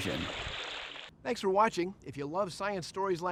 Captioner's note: water splashing